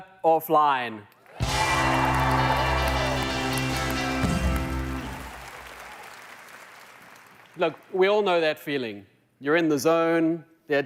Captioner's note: applause